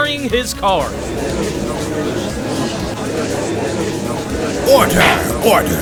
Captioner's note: gallery chattering